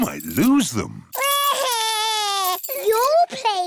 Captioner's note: crying